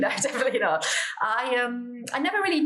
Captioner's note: laugh